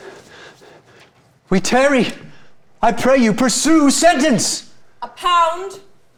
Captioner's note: panting